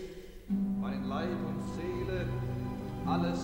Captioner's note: speaks in german